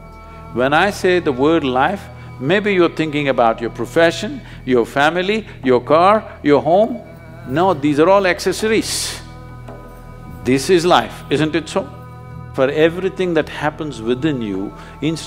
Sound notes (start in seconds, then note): none